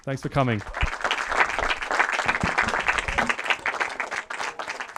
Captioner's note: audience applauds